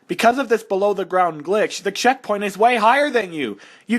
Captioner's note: none